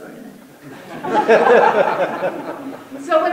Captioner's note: audience laughter